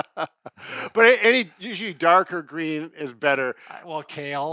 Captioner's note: laughs